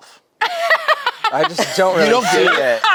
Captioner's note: laughing